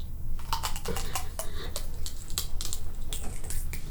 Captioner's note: loud crunching